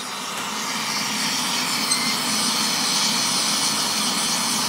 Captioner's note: hissing